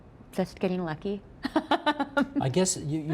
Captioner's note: laughing